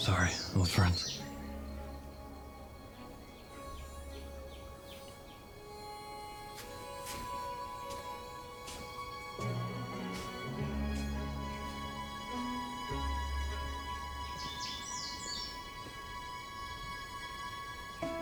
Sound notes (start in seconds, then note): 6.4 birds chirping; 6.4 somber music